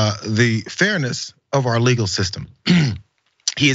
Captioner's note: cough